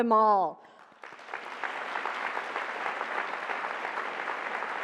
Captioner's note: applause